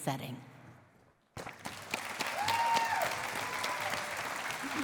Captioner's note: cheering and applause